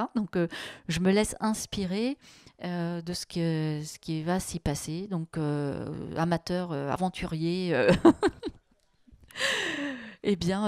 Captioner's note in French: elle rit